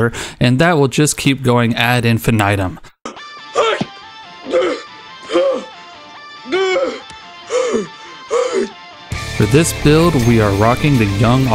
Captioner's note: out of breath